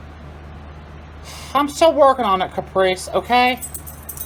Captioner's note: none